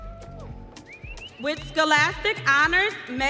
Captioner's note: audience cheering